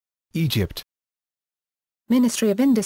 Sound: Spanish

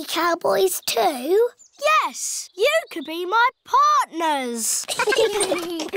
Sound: all giggling

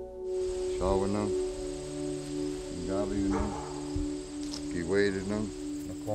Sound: speaking Ojibwe

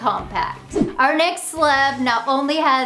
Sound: graphics whoosh

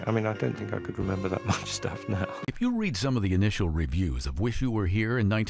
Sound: chuckling

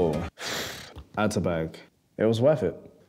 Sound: sighs

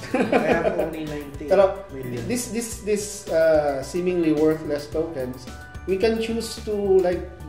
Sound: laughs

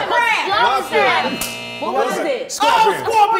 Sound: timer buzzes

